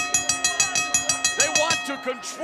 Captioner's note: bell ringing